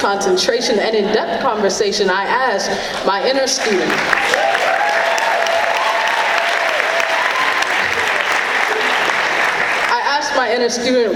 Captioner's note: clapping